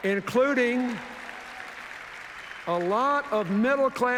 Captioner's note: cheers, applause